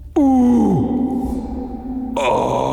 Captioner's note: voice echoing